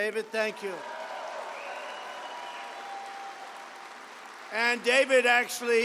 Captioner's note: applause